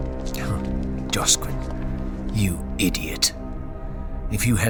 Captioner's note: Footsteps of Josquin and several guards